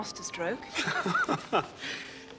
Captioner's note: Tertawa